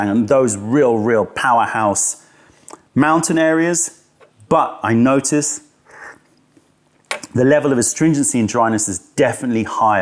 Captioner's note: sips tea